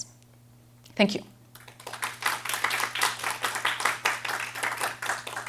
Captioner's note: applause